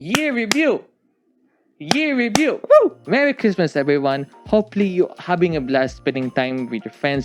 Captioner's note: claps